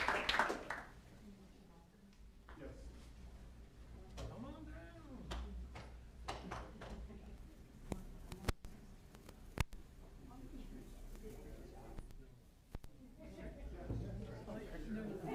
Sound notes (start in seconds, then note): 2.6 chatter